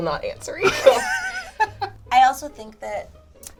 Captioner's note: chuckles